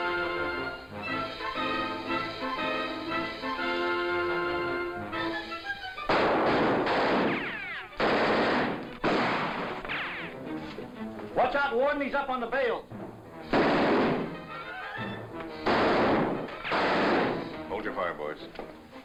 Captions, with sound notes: (guns firing) - Watch out warden, he's up on the bail! (gun fires) - Hold your fire boys.